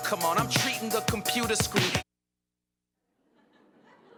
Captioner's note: laughter